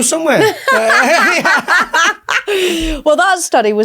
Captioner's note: group laughs